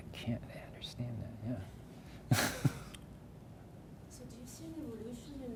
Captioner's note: chuckles